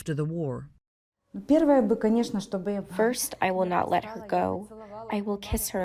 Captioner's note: through translator